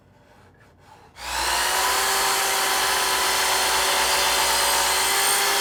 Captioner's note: equipment whirring